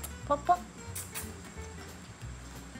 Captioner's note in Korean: 쪽쪽